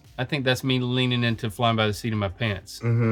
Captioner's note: clears throat